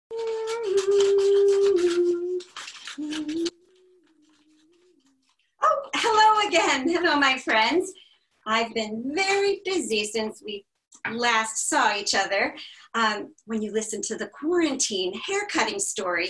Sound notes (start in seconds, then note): 3.8 humming